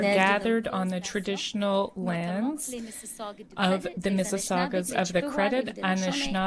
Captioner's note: speaking French